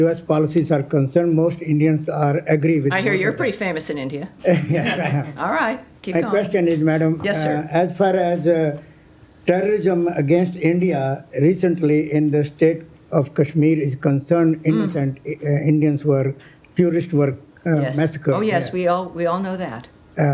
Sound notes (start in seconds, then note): 4.4 laughter